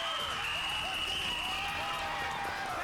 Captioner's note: cheers and applause